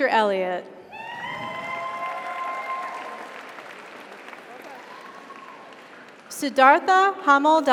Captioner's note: audience cheers; audience applauds